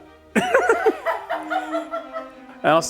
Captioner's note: laughing